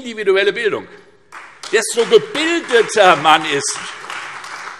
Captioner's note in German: Beifall Freie Demokraten und vereinzelt CDU